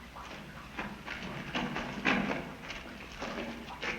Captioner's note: dripping water in distance